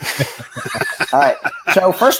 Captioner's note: laughing